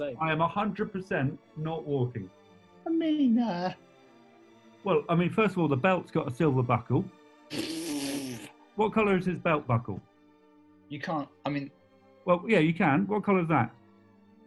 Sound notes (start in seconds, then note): 7.5 splutters